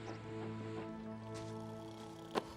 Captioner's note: snoring